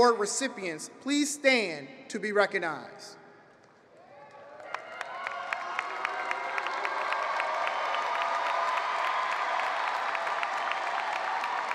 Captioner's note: applause